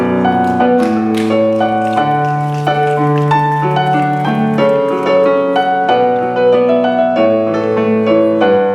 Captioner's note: snapping